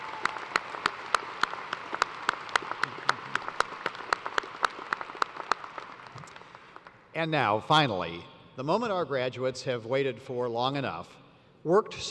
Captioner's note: cheers and applause